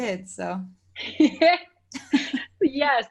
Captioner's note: laughing